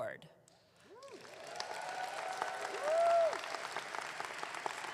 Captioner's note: audience clapping